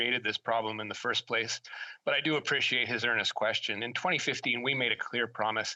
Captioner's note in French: voix de l'interprète